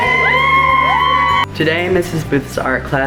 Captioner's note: cheering